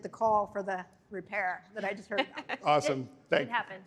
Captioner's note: laughter